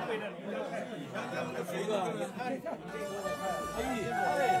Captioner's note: people chattering